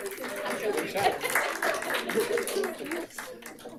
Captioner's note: group applauds